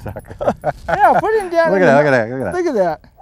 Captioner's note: laughter